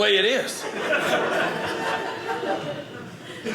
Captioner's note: audience laughing